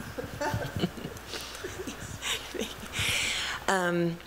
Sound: laughter

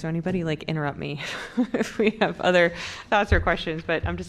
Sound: laughter

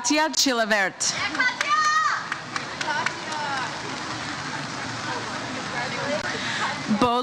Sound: audience member cheers "Katya"

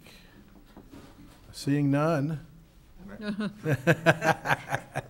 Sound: laughs

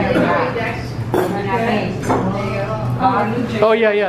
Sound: chattering

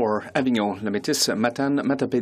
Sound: speaking in French

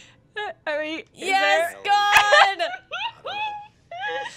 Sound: laughter

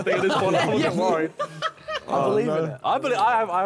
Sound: all laughing

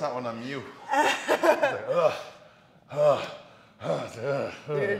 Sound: laugh

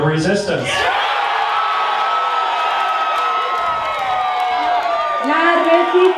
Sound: crowd cheering

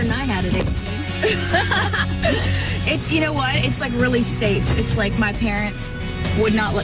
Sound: laughs

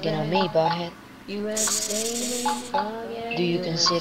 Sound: hiss

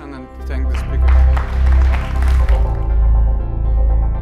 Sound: applause

